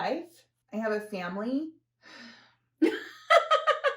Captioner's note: sigh; laughter